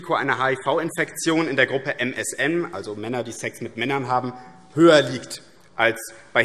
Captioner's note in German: none